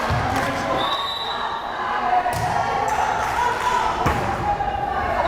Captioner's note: whistle blares